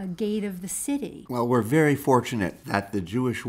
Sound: voiceover

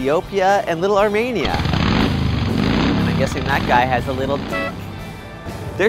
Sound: motorcycle noise

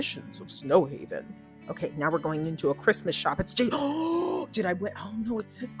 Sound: gasps

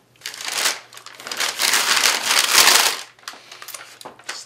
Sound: paper bag rustling

